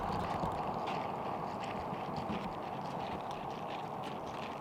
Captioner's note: loud clattering